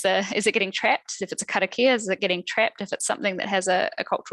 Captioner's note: non-english speech